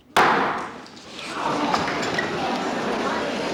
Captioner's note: chattering